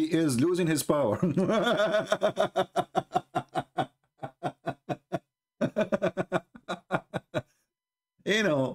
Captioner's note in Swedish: Skratt